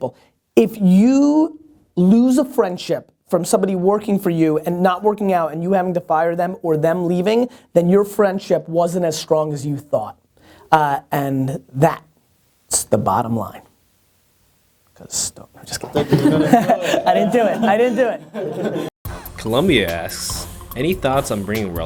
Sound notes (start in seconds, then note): 15.8 all chuckling; 19.1 voiceover